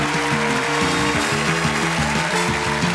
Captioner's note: applause; theme music playing